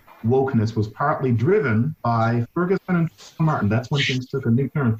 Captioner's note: voice muffling